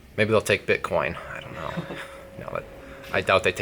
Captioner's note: laughs